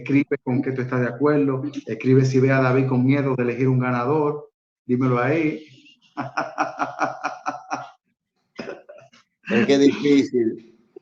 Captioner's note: laughs